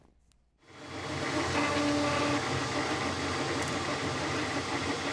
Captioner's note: machines running